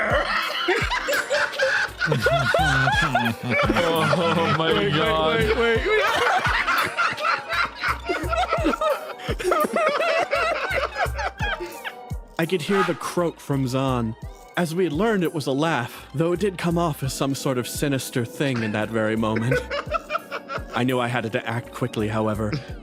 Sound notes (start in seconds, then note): 0.3 laughs; 6.3 laughs; 19.2 laughs